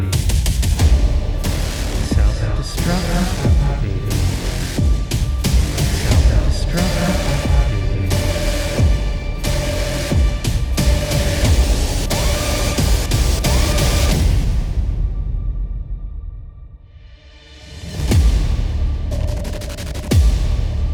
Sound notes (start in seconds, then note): 0.0 robot Voice; 0.2 dramatic techno music; 2.4 robot Voice; 4.4 dramatic techno music; 6.5 robot Voice; 17.4 dramatic techno music